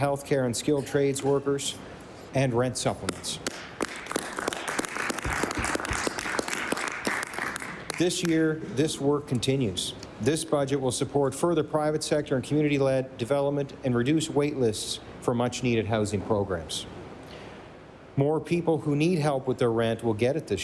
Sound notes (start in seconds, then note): 9.3 applause